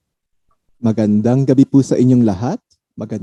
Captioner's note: speaks Taglog